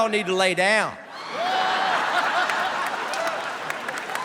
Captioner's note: laughter